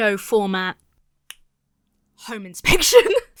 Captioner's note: snaps fingers; laughs